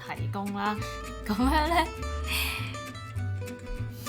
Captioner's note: laugh unprofessionally